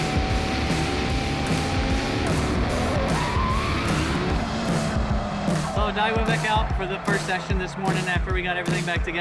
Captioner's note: engine Roaring